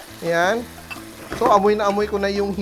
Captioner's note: sizzle